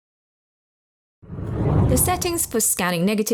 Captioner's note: video effect whooshes